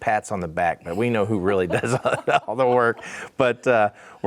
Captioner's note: laughs